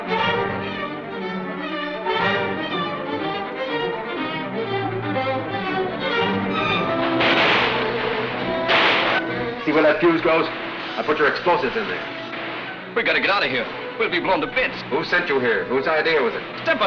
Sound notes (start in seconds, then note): 7.0 guns fire